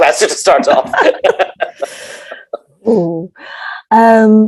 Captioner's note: laughing